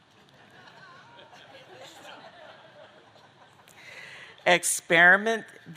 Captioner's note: audience laughing